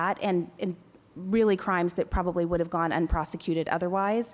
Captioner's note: none